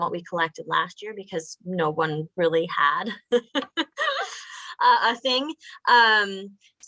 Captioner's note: laughing